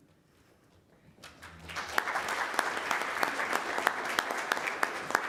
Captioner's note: audience applauding